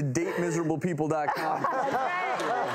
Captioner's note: audience laughs